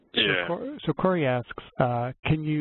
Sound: voiceover

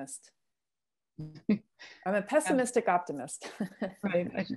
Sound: laughter

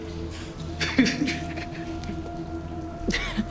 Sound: Douda laughing

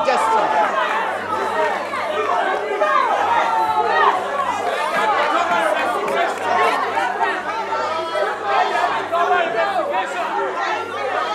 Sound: distinct chatters

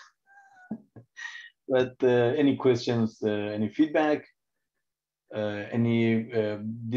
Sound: laughs

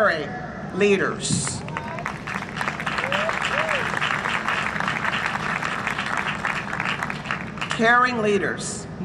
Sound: applause and cheering

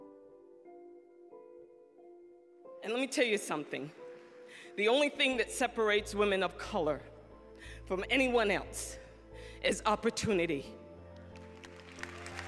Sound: applause

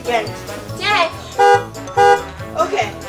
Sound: car honking

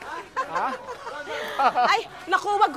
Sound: laughs

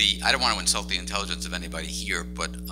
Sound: laughs

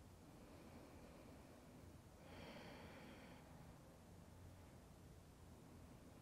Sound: breathing

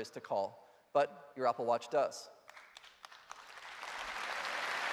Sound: applause

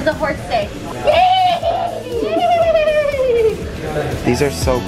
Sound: mimicking horse neighing

